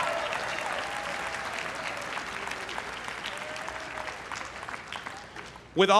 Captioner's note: everyone cheering and applauding